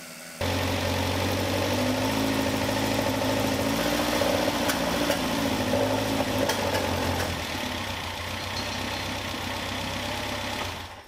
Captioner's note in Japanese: エンジン音